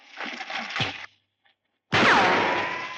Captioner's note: firing; punch